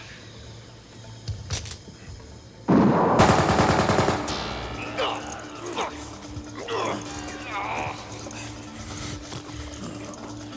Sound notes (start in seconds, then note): 2.6 guns firing; 4.9 grunting